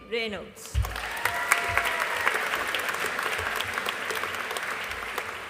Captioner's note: audience applauding